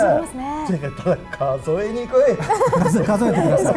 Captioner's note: laughs